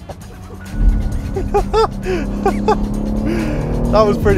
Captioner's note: laughs